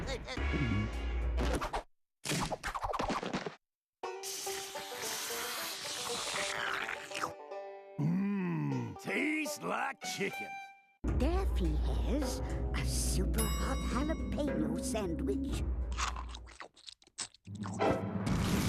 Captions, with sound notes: [slurping] MMM, TASTES LIKE CHICKEN. DAFFY HAS A SUPER-HOT JALAPENO SANDWICH. [chomping]